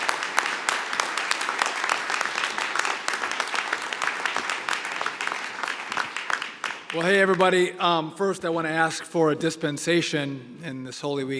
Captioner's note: applause